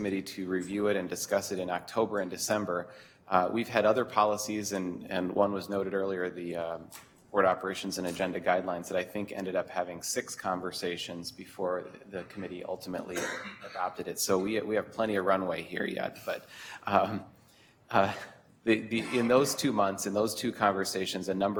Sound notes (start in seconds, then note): 16.8 chuckles